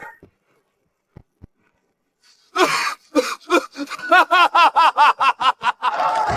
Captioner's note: cough, cough, cough